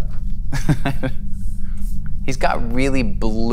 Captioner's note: laughs